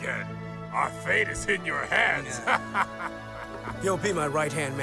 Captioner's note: sailor laughs